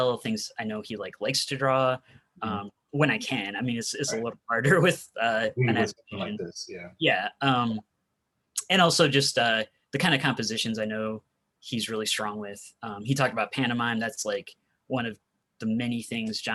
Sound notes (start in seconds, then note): 5.4 murmurs